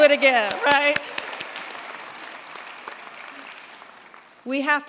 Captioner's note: applause